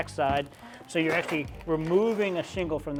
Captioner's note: shingle rustles